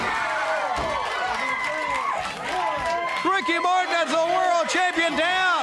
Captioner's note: crowd cheering